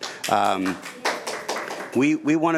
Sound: audience members clapping

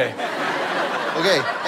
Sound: audience laughter

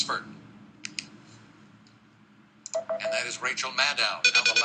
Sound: silence

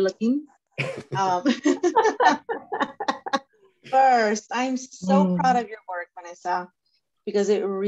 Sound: laughter

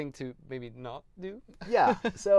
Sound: laughs

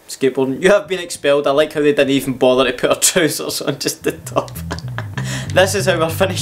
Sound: laughs

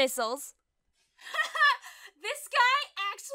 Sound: laughs

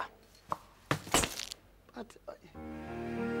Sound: plastic crunching

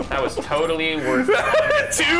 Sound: laughing

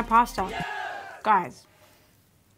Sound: group cheers

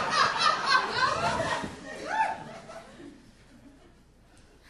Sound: audience laughing

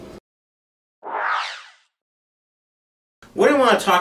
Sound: logo swooshing

